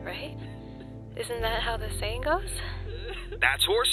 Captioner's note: sobbing; sobbing